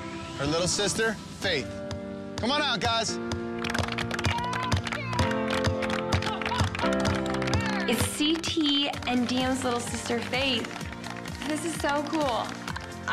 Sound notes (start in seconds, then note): 3.5 clapping; 4.2 light music